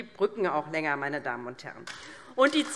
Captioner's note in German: Beifall DIE LINKE